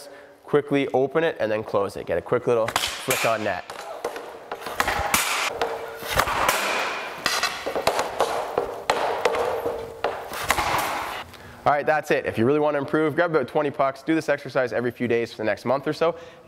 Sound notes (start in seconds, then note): 3.0 puck slaps; 4.9 pucks slapping